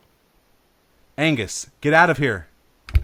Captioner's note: door opening